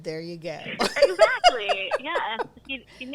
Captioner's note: laughs